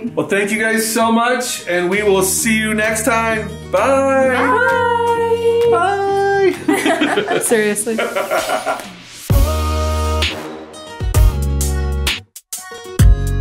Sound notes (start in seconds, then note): 6.6 group laughing; 7.9 dad laughing; 9.3 upbeat music